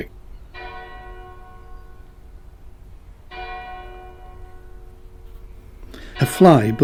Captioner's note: bell chimes